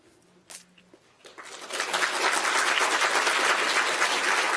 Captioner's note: audience applauding